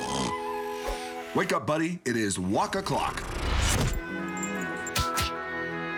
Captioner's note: none